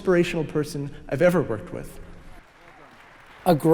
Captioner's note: applause